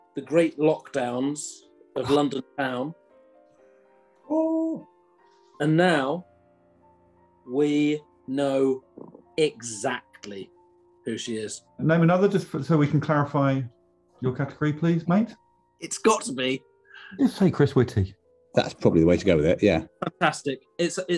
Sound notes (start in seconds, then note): 4.0 wails